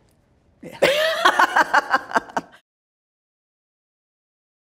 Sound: laughs loudly

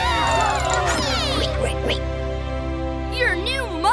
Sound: cheering

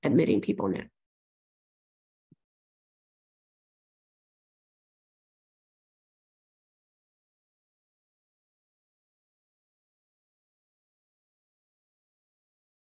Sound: audio gap

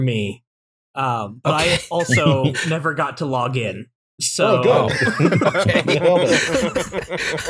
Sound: laughter; laughter

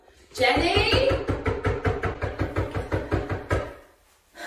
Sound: shouts and knocks loudly

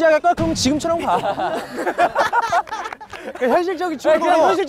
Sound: hahahaha

